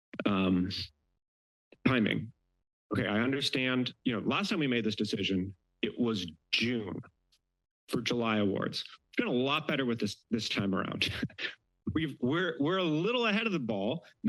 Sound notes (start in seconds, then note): 9.2 laugh